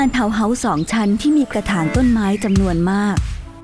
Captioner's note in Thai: เสียงนก